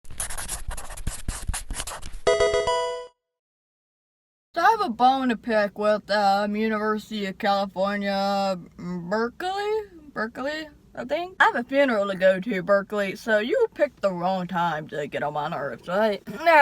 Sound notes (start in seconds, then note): 0.1 marker scratching; 2.3 electronic video game chime